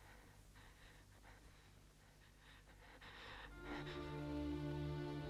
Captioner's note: Hundra's breath shaking; somber music